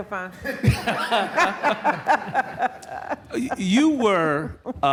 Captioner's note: laughter